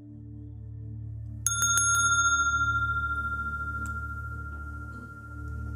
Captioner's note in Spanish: Mooji toca la campana